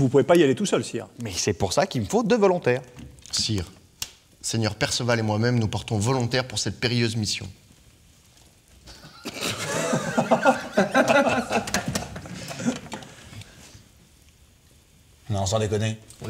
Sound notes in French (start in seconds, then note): 6.8 Rires